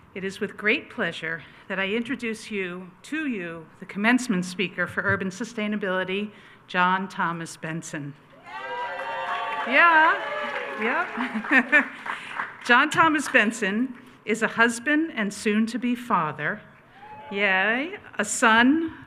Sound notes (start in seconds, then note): 8.4 attendees cheering